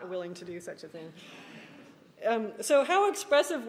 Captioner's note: laughing